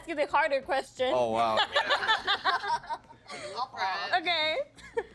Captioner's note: all laughing